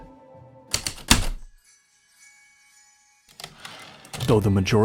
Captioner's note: typewriter keystrokes then return slide